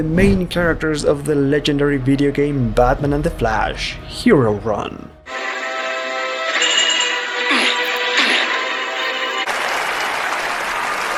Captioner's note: applause